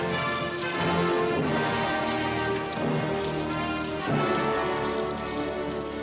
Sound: yelling, grandiose music

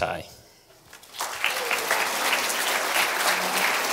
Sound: applause

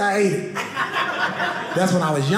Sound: audience laughing

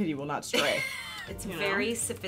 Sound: laughing

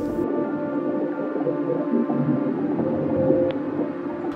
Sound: water bubbling

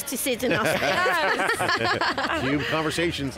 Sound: all laughing

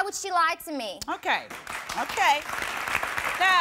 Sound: applause

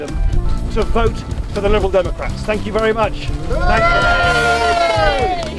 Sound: cheers

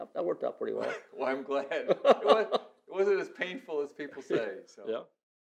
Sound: laughs

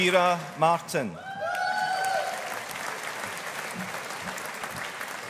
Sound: audience applauding

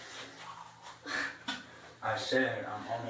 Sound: mouth spits

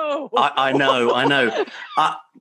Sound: male Voice

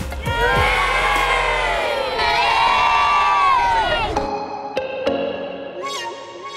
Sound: cheers

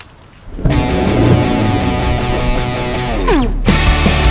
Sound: engine revving; upbeat rock music

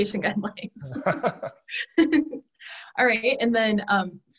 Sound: both laughing

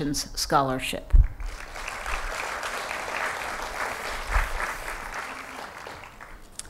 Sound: applause

